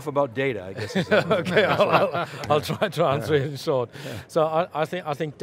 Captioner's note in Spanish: risas